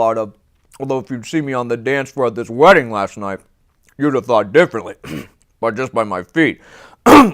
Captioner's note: clears throat